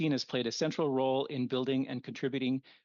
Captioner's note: speaking French